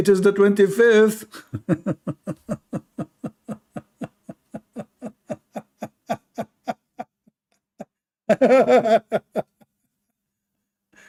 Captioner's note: Ketawa